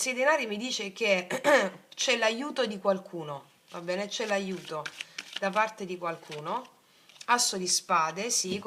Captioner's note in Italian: schiarire la voce